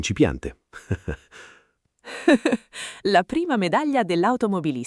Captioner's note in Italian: Haha